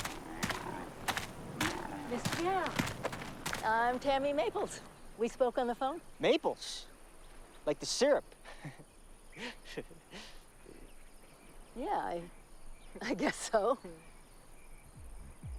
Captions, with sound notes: - Mr. Gall, I'm Tammy Maples, we spoke on the phone. - Maples, like the syrup. (chuckling) - Yeah I, I guess so.